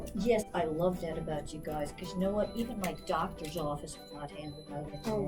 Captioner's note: repetitive beeping